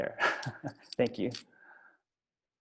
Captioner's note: laughs